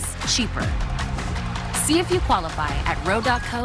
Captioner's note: none